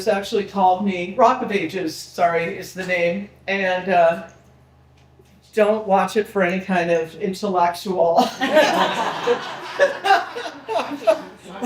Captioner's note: people laughing